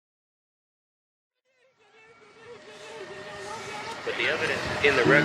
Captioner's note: audio from catastrophic climate events